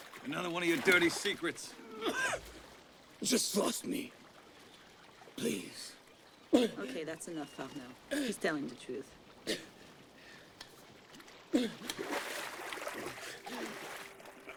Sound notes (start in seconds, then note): 1.8 coughing